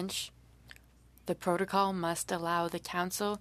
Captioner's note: speaking French